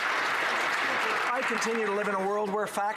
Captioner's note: some Applause